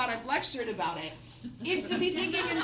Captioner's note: students laugh